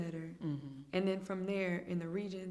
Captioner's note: hums in agreement